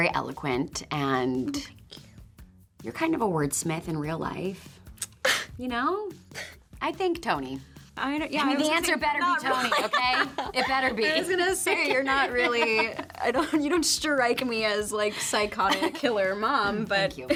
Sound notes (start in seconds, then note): 5.1 Toni tsks & gasps; 9.5 Toni laughs